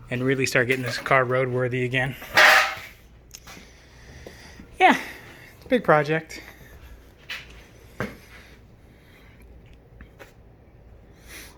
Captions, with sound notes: And really start getting this car roadworthy again. (metal clanking) Yeah, it's a big project.